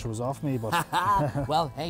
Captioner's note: laughs